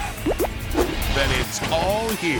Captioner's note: bird excrement plops